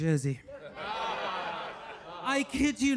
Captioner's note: audience laughing